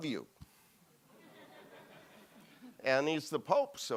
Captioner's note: audience laughs